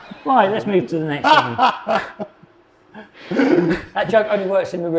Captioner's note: audience laughing; laughs